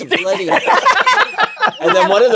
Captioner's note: laughter